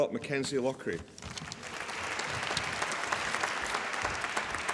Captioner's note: applause